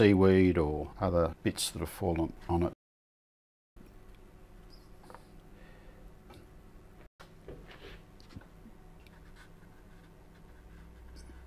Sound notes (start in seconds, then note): 4.5 silence